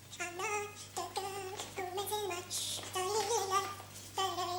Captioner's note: humming